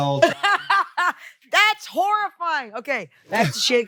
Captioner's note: laughs